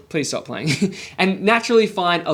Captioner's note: laughs